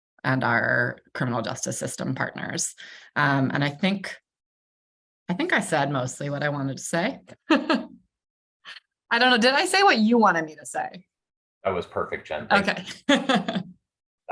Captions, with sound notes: and our criminal justice system partners. And I think I said mostly what I wanted to say. (chuckles) I don't know, did I say what you wanted me to say? - That was perfect, Jenn. Thank you. - Okay.